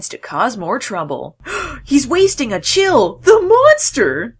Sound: gasps

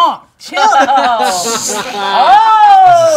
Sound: group laughing

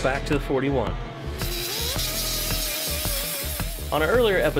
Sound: machine whirs

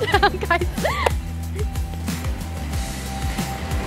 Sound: laughing

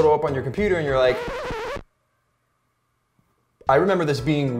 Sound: record skips

